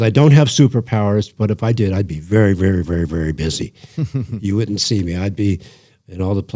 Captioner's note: laughter